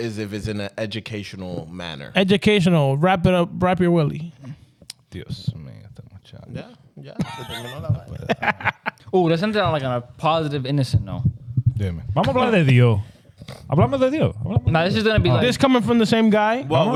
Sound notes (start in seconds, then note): 6.8 speaking Spanish; 7.0 laughing; 12.9 speaking Spanish